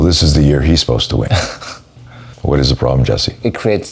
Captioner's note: laughs